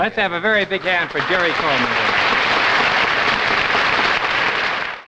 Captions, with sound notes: - Let's have a very big hand for Jerry Coleman. (audience applauding)